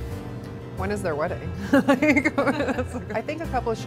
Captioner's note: laughs